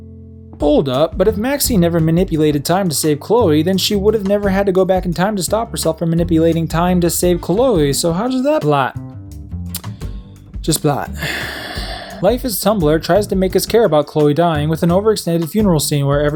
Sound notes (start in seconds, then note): 9.7 smacks lips profusely